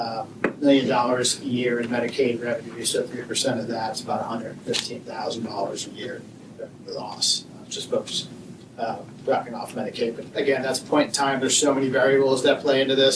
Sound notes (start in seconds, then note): none